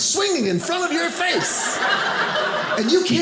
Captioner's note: audience laughing